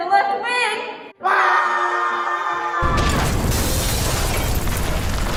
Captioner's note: screams, crash